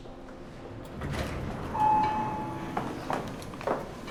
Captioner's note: elevator dings